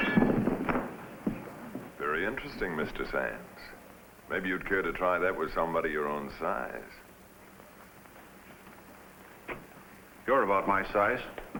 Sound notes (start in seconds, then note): none